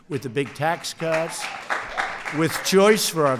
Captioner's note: applause